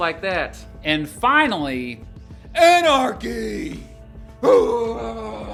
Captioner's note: screams